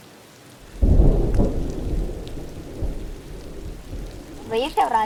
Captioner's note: thunder